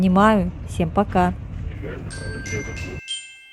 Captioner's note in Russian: колокольчик